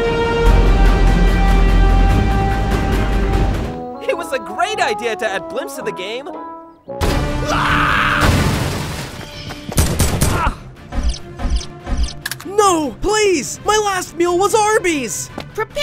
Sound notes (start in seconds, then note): 0.0 uplifting heroic music; 8.2 loud explosion; 9.7 gun bangs